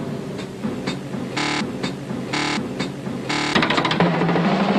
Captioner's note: buzzing noise; intense drum beats